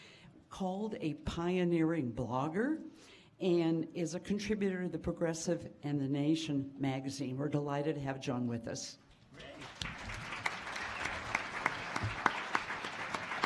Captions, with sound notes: pioneering blogger, and is a contributor to The Progressive and The Nation magazine. We are delighted to have John with us. (applause)